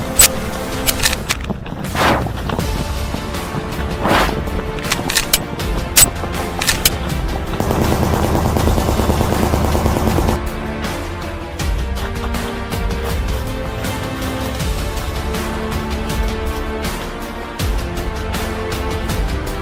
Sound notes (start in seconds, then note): 0.0 gun cocking; 6.6 gunshots firing